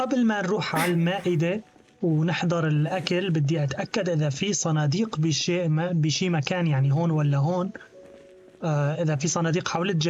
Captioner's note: grunting; footsteps